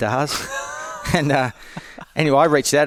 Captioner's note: laughs